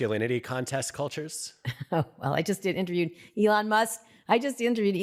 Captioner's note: chuckles